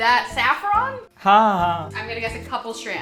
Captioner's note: speaking in Hindi